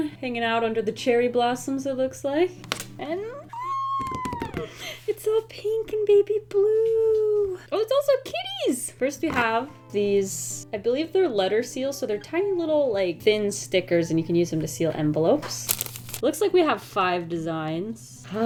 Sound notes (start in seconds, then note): 3.4 excited squeal